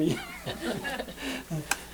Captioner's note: laughter